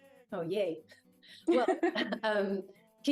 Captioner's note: laughs